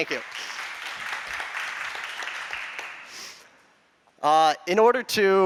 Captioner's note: applause